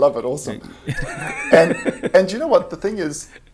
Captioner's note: laughs